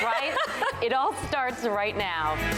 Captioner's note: laughter